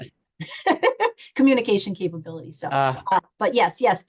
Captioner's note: chuckles